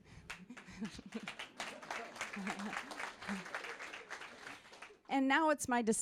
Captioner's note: applause